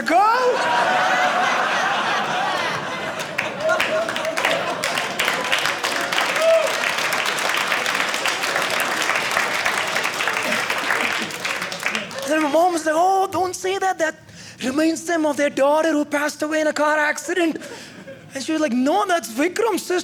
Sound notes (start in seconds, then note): 0.3 audience laughing; 4.9 audience clapping